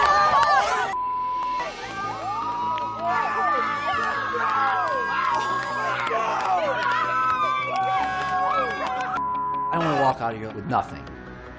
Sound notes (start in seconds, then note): 3.6 cheering